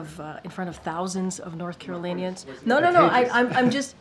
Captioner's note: laughs